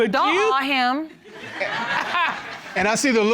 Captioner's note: laughter